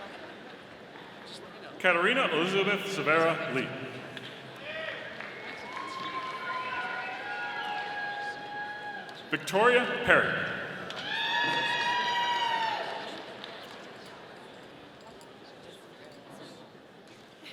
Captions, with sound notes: Katerina Elizabeth Severa Lee. (audience applauding) Victoria Perry. (audience applauding)